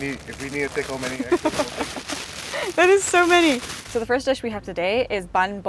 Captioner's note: laughs